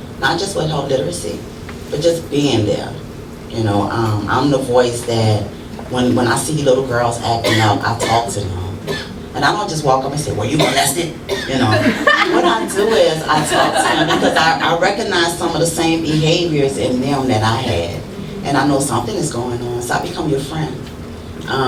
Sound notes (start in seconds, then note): 11.6 laughter